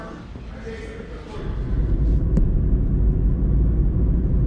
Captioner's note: car engine